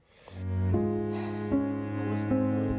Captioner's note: sighs